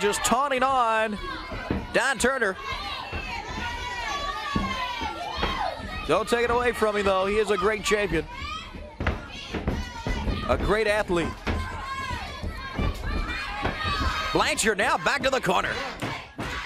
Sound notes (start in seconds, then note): 7.1 crowd chatter; 9.8 crowd chatter; 13.7 crowd chatter